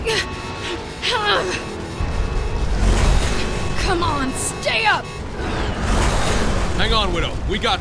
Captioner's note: grunts